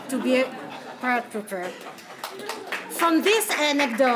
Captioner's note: laughter